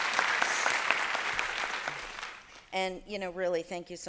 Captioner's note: applause